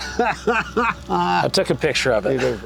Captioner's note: laughing